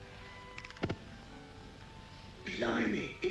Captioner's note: match strikes; flame ignites